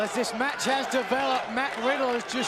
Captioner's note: crowd chatter